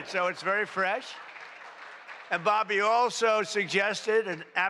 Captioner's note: applause